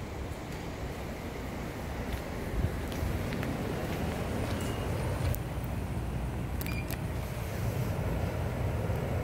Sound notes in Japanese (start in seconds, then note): 6.6 商品選択音